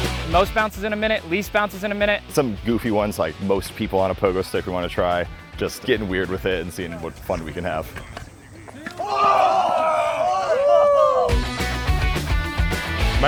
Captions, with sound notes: - Most bounces in a minute, least bounces in a minute. - Some goofy ones like most people on a pogo stick. We wanna try just gettin' weird with it and seein' what fun we can have. (Pogo stickers screaming) (upbeat rock music)